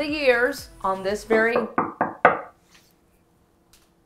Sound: knock on door

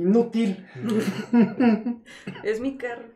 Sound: laughter

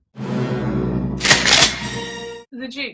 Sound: sound of riffle

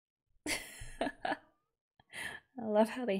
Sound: laughs

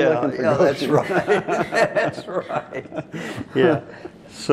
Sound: laughing

